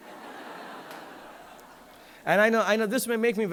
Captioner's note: audience laughing